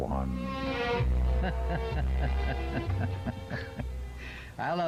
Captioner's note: laughing